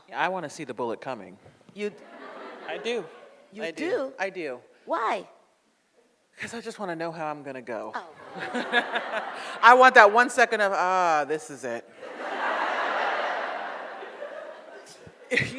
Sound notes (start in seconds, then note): 2.0 audience laughs; 8.2 audience laughs; 12.0 audience laughs